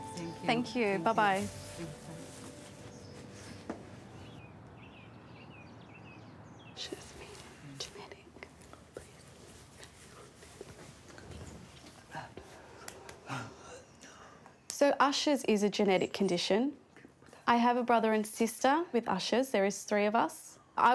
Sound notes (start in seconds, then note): 6.8 both converse softly